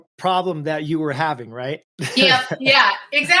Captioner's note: laughs